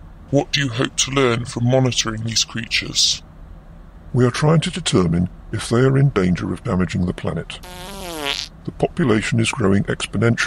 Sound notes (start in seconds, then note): 7.6 passing wind